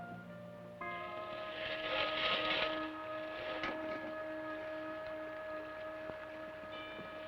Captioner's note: suspenseful orchestral music; scraping